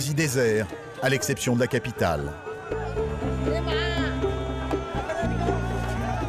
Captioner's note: people speaking foreign language